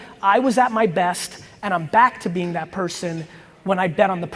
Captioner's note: none